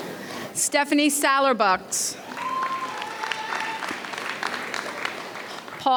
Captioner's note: audience cheers